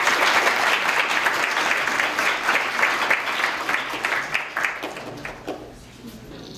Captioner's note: applause